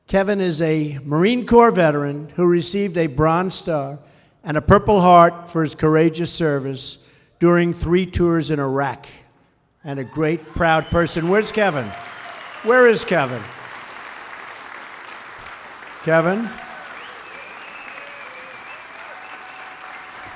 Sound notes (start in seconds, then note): 12.3 applause